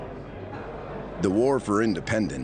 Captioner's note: crowd murmuring